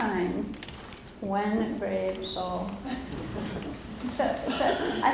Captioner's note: audience laughs